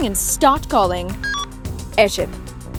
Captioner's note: beeping